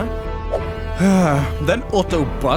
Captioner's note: sigh